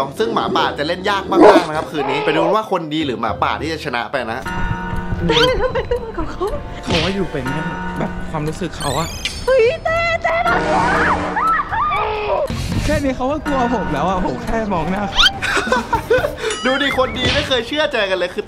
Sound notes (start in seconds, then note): 4.7 clock chiming; 11.3 screams; 15.1 laughs